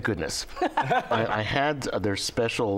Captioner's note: laughter